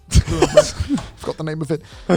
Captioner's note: man chuckles